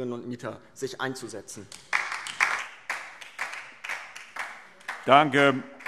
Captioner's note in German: Beifall